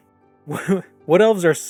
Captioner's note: guffaw